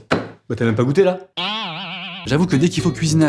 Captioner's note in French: Bruit de ressort